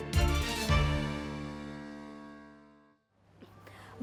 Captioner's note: echoes